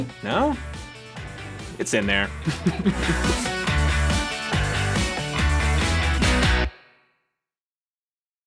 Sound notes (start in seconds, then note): 2.4 laughs; 4.2 upbeat music